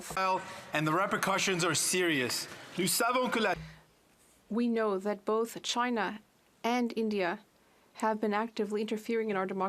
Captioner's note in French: voix de l'interprète